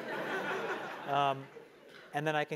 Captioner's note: laugh